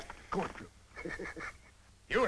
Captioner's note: laughs